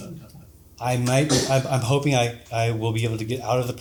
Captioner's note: audience laughs